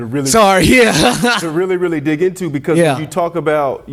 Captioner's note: chuckles